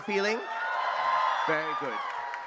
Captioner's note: audience cheering